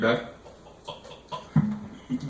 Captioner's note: drinking sounds